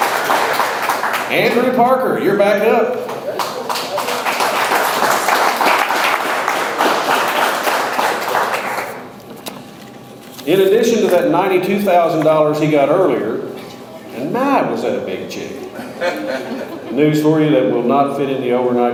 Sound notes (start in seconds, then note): 3.0 audience applauds